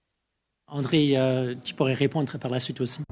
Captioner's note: speaking French